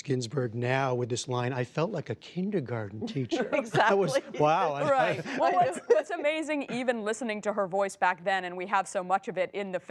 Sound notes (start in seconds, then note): 5.6 laughter